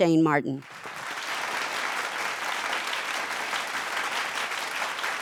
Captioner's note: audience claps